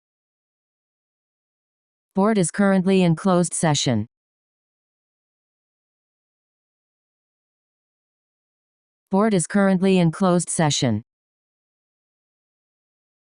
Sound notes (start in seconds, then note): none